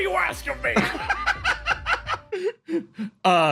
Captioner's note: laugh